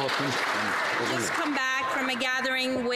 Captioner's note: some Applause